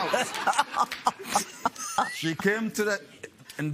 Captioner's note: laughs